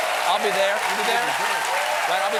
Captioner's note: cheers and applause